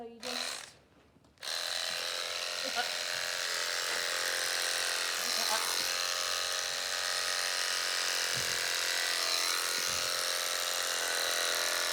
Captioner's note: shaving noise